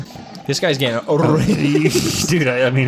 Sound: laughs; rolls tongue; snicker

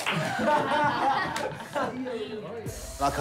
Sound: chuckles

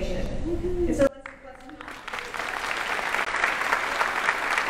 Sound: audience applauding

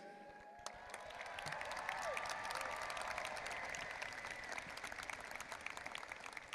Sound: audience applauding and cheering

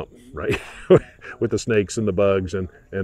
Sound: chuckles

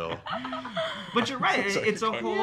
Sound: laughing

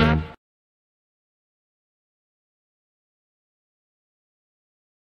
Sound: silence

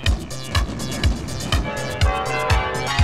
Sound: fireworks; bells

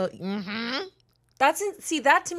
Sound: hums

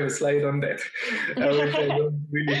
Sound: laughter

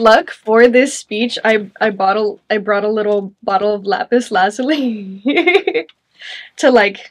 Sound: chuckles

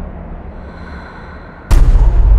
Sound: exhales

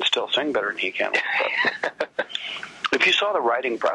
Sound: laughs

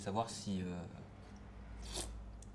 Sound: slurps

